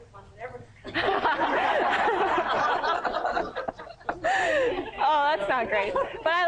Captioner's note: laughter